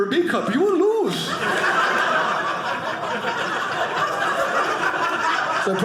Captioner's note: audience laughing